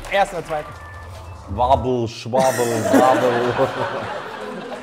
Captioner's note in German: Lachen